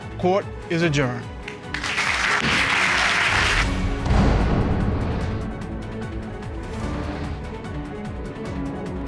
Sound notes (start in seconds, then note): 1.4 audience applauds; 1.6 gavel bangs